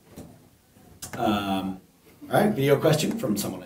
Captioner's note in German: Voice-over